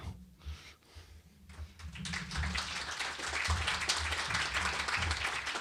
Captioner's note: applause